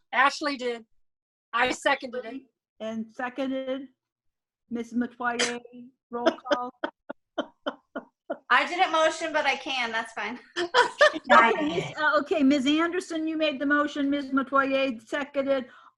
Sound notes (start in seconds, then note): 6.2 laughs; 10.7 laughs